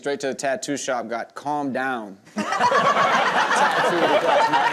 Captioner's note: everyone laughs